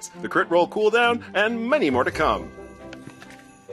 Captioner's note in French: none